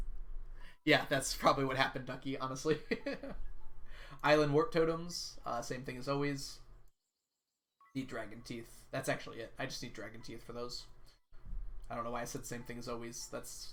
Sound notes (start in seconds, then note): 3.5 laughs